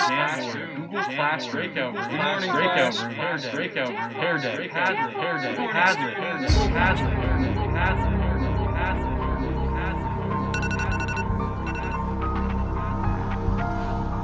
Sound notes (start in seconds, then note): 6.4 ominous music; 10.5 alarm rings